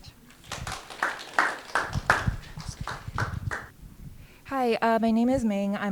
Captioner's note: audience clapping